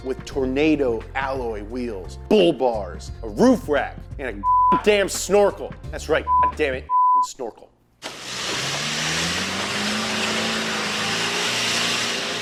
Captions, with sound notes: with tornado alloy wheels, bull bars, a roof rack and a (beep) damn snorkel. That's right (beep) a dammit (beep) snorkel. (engine revving)